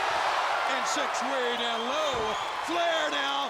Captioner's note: audience exclaiming